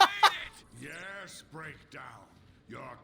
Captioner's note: laughs